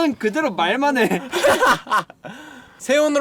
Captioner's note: laughter